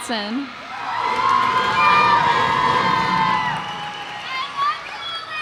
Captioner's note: cheers and applause